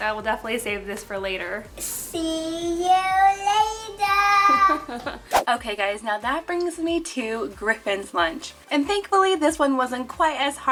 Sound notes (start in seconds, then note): 4.4 laughs